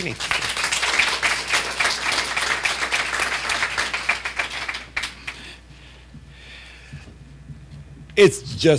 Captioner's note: applause